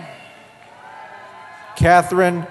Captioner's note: cheering